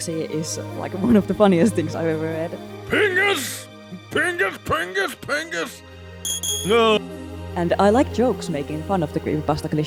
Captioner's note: Markiplier yelling pingas